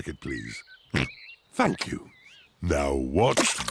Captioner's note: oinks